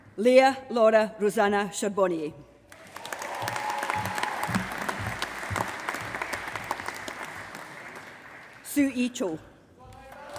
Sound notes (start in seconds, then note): 2.7 applause